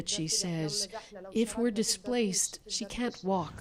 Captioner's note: speaking alternate language